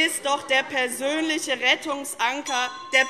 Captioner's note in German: Zurufe - Glockenzeichen